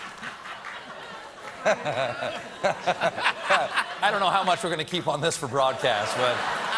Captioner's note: laughter